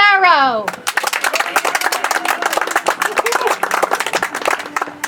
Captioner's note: audience applauds